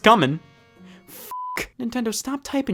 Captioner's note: beep